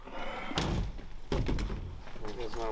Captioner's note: tailgate thumps; bottle thuds